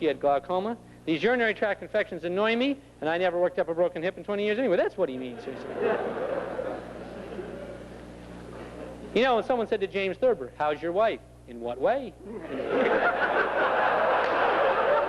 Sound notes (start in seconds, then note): 5.3 laughter; 12.4 laughter